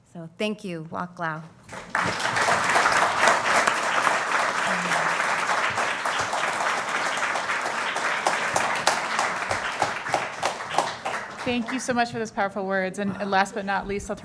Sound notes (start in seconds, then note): 1.4 speaking Native Language; 6.1 applause